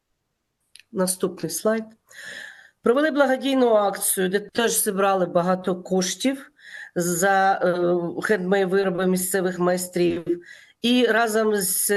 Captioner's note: foreign language